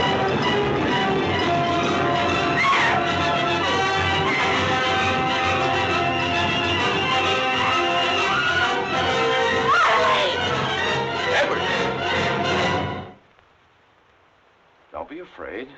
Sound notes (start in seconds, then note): 0.0 thunder crashing; 0.1 suspenseful music continues; 2.5 Elaine screaming; 3.0 suspenseful music continues; 12.0 suspenseful music continues